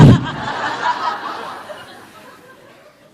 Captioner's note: audience laughs